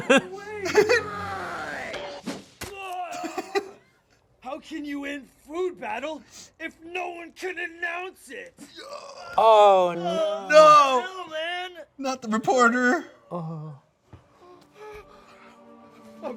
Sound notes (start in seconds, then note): 0.0 laughs; 3.0 groans; 3.1 laughs; 15.3 dramatic music